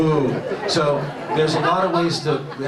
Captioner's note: audience laughs